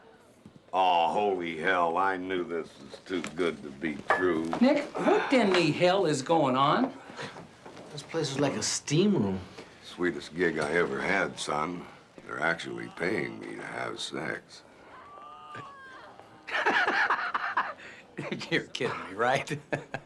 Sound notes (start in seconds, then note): 15.2 moaning continues; 16.8 laughing